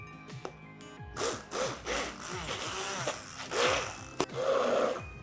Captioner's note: grinding